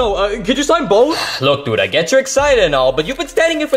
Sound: sighs

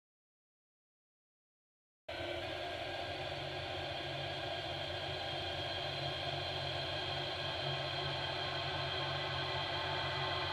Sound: sound of dark horror

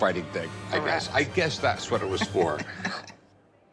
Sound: laughs

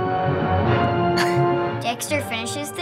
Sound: chuckling

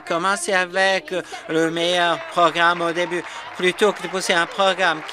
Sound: some Applause

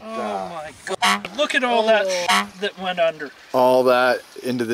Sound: car horn honks

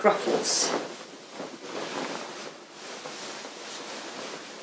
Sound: petticoat rustles

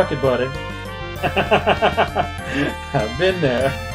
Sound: laughs

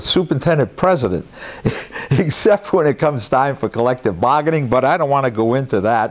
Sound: laugh

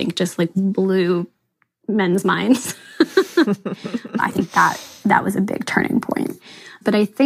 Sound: both laugh

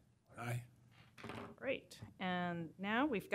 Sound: chorus of ayes

